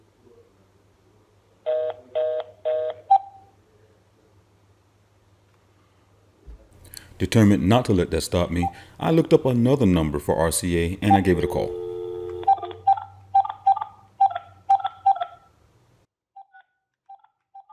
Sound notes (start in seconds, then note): 1.7 phone gives fast busy tone